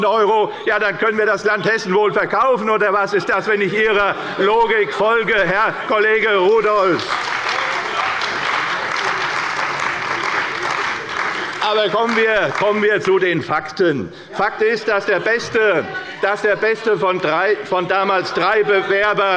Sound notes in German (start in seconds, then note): 6.7 Beifall bei der CDU